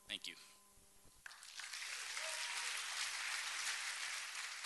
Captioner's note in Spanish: Aplausos